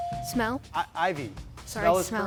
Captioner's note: bell chiming